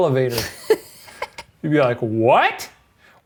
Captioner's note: laughs